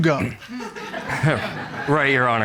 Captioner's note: audience laughs